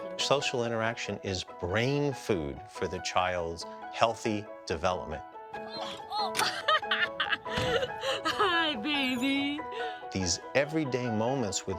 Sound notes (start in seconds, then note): 5.8 laughs